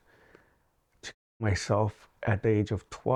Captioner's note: audio muted